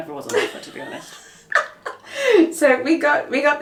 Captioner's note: laughs